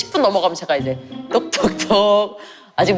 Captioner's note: knock knock knock